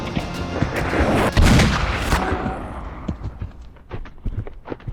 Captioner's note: gunfire ricocheting